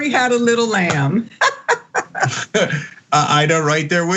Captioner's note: laugh